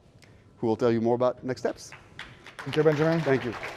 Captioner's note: applause